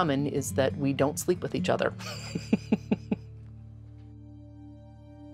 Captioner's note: laughs